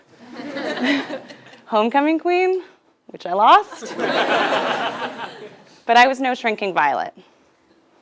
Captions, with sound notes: >> [LAUGH] >> Homecoming queen, which I lost. >> [LAUGH] >> But I was no shrinking violet.